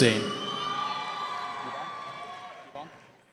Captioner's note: cheering